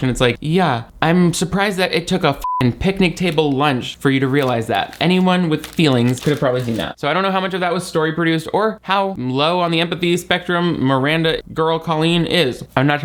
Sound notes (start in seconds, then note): 2.4 beep